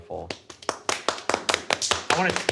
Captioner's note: everyone clapping